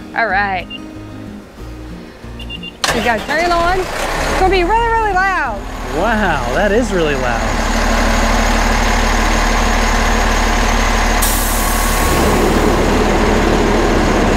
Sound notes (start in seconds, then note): 2.7 truck engine roaring; 8.6 loud engine roaring